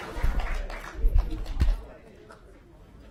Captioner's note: applause